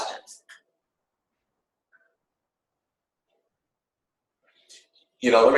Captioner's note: silence